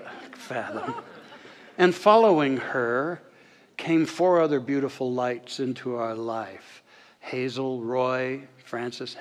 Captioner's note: audience soft laughter